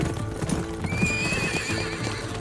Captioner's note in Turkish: At kişniyor